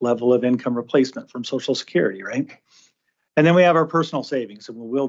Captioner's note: snorts